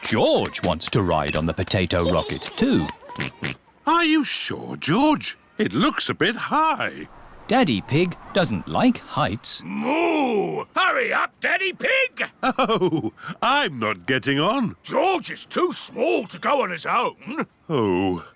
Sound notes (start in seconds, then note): 3.2 oinks; 12.3 chuckling